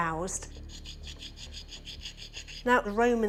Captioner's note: grinding